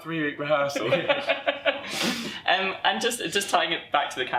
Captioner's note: laughter